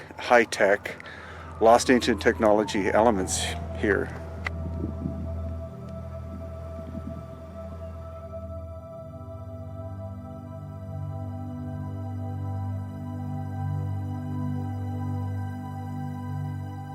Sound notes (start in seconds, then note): 4.4 gentle music; 4.4 wind whipping; 13.5 gentle music continues